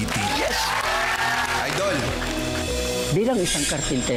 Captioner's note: crowd applauding